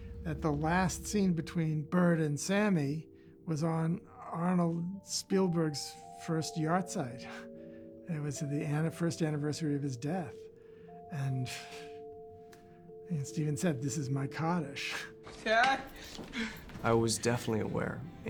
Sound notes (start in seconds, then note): 14.7 chuckles; 15.8 crying